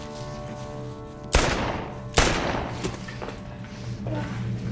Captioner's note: gun firing; dramatic music